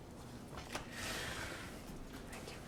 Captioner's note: whisper